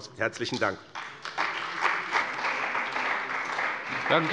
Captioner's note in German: Beifall bei dem BÜNDNIS 90/DIE GRÜNEN, der CDU und der FDP